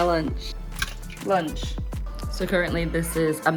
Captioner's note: spaghetti falls in water